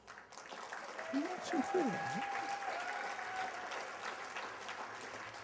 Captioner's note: applause